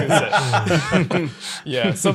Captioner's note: laughing